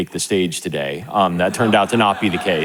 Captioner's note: audience laughing